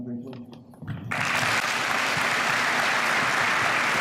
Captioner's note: applause